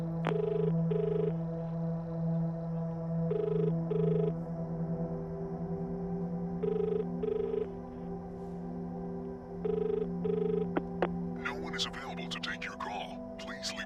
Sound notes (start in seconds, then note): 0.2 dial tone; 4.6 dial tone continues; 13.4 answering machine